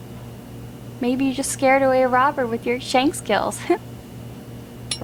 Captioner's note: laughs